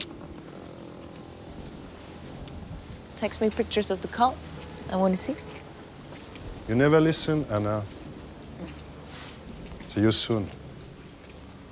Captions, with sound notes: TEXT ME PICTURES OF THE CULT? I WANT TO SEE. YOU NEVER LISTEN, HANNAH. ( SCOFFS ) SEE YOU SOON.